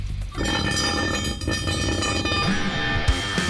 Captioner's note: metal screech